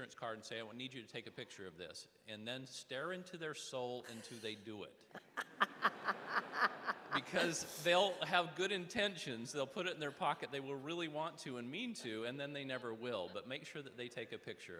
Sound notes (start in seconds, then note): 9.4 audience laughing